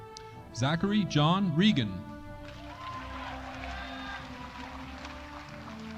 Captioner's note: audience applauding